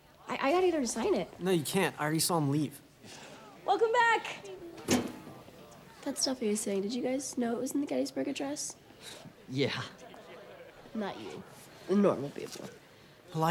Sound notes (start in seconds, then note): 10.1 chuckles